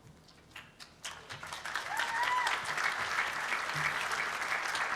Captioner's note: applause